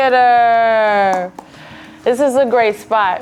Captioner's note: pointer taps